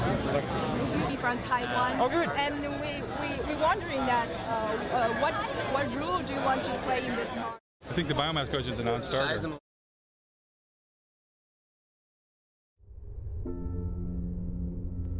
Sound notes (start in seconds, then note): 6.6 voice fading out; 13.1 somber music